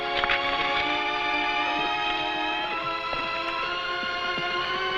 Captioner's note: horse hooves pattering